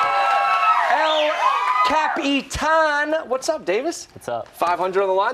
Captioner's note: cheers and applause